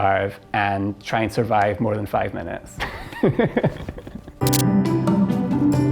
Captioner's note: laughs; upbeat instrumental music